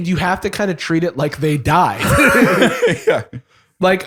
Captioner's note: laughs